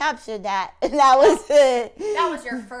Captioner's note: laughing